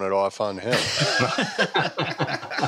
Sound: laughter

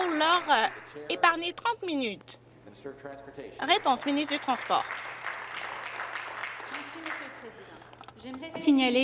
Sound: some Applause

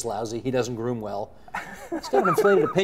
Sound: both chuckle

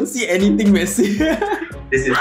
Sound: laughs

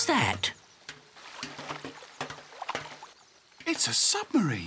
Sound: clanking

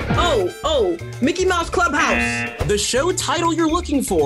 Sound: buzzer rings

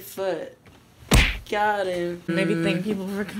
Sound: bam

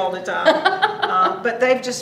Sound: laughs

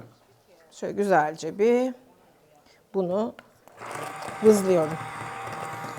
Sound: crushing

